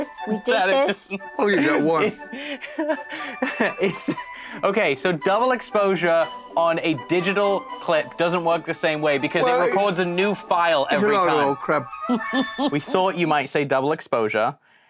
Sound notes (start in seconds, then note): 2.6 laughs